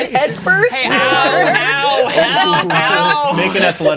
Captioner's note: players laughing